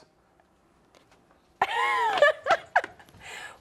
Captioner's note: laughs